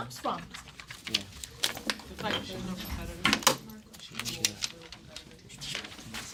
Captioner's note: students murmur